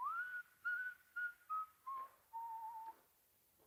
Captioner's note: Harry whistles